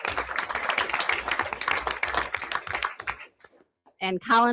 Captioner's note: everyone applauds